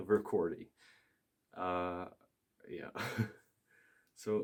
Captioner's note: laughs in pain